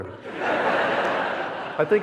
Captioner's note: audience laughing